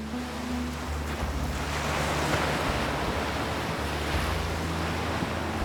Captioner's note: gentle music; waves crashing